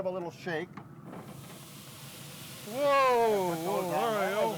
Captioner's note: potatoes sizzling